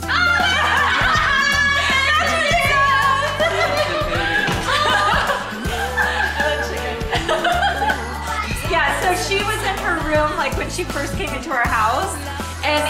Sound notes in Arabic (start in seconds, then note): 2.0 المرأة تضحك; 5.1 النساء تضحك